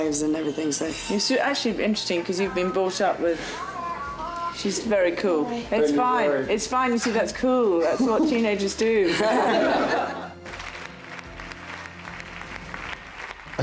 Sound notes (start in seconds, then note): 7.7 Eugenie laughs; 9.8 audience applauding